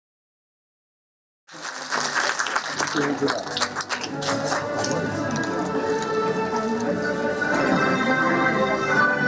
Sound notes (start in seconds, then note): 1.4 applause; 3.5 orchestral music